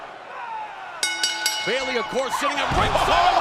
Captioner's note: bell ringing